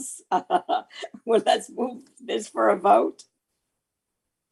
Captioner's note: laughing